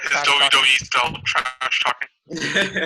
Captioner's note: laughing